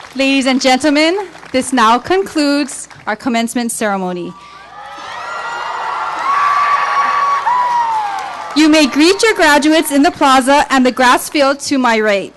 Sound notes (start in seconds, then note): 4.3 cheering